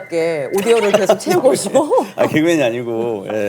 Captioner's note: haha